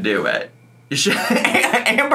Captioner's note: laughs